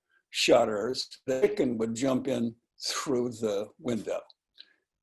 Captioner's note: distorted audio